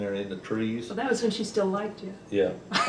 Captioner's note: laughter